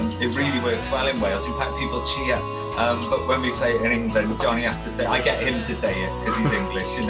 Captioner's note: laughs